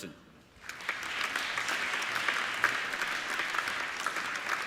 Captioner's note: applauding